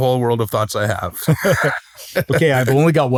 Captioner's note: laughter